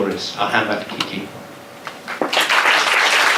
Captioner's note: clapping